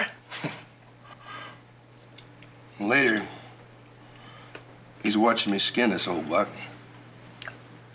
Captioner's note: chuckles